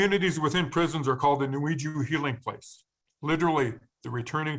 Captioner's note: speaking in foreign language